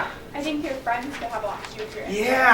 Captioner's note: woman's Voice